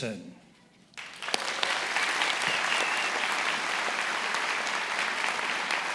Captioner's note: attendees applauding